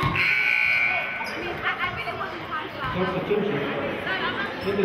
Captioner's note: buzzer sounding